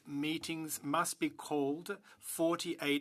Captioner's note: speaking French